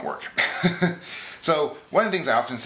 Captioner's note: laughs